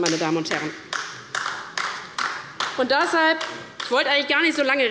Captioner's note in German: Beifall der Abg